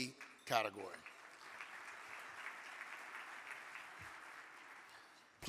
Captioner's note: audience clapping